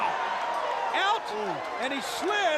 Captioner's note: crowd cheering